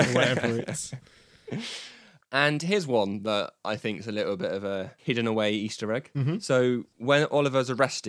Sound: laughs

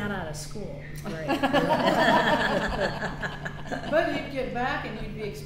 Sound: all laugh

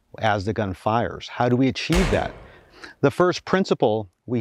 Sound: gunshot

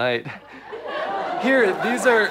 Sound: audience laughs

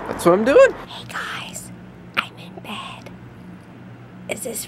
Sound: whispers

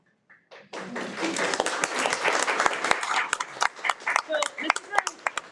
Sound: everyone applauds

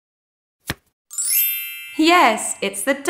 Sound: the sound of a card being turned over can be heard; the sound of stars can be heard

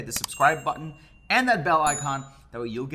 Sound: bell dinging

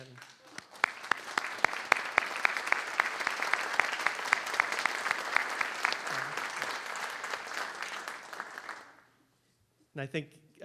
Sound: applause

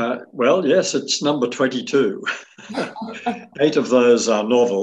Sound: chuckles

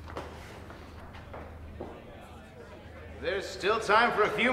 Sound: crowd noise

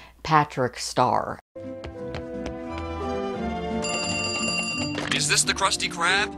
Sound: phone ringing

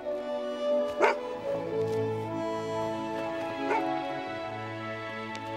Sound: barking

